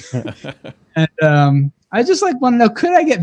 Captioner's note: laugh